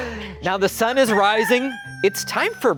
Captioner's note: everyone laughing; rooster crowing